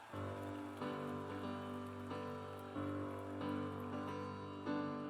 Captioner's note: cheers and applause